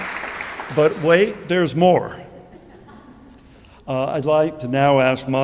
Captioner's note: audience applauding